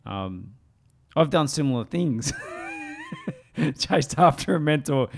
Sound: chuckling

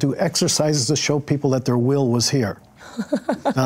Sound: chuckles

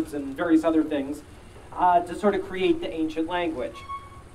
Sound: none

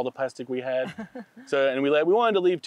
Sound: chuckles

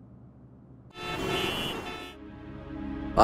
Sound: traffic noises

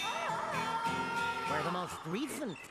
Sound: wailing

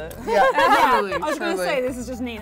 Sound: laughing

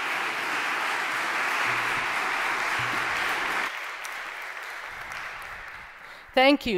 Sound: applause

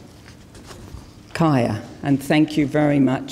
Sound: speaks in foreign language

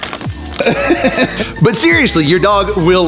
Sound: laughs

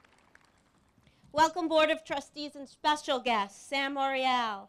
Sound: applause

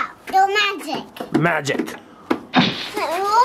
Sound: bomb exploding

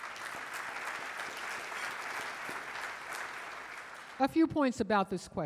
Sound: audience applauding

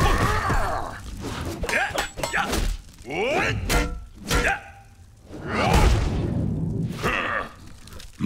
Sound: grunting; grunting, clanking

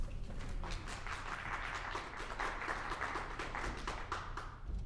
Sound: audience applauding

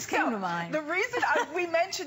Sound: laughter

